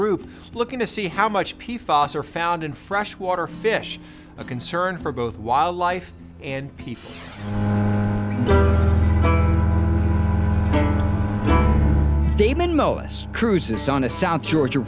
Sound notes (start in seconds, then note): 7.0 speedboat motor revving; 7.3 light music